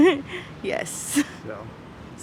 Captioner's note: laughing